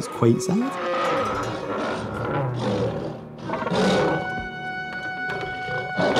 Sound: troglodyte roaring and Saber Toothed Tiger snarling

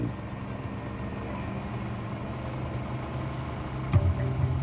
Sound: boat engine whirring

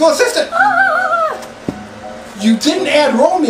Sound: Pumpkin screech funnily

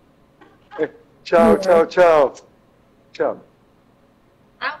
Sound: members chattering

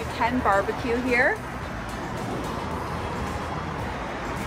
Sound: traffic noises

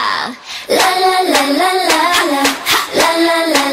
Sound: ha, ha

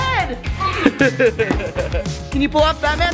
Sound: laughing

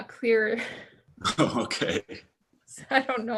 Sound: chuckles

